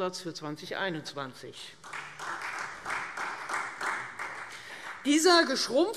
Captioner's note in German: Beifall Freie Demokraten und vereinzelt SPD